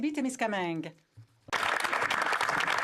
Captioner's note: speaking French